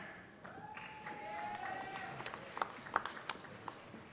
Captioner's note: cheers and applause